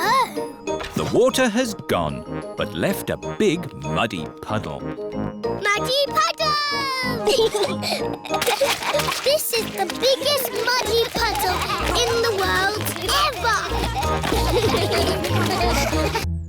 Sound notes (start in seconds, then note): 7.2 both giggling; 13.5 all giggling; 14.5 all laughing